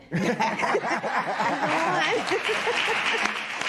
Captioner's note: laughter; applause